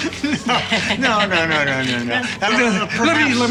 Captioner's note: laughs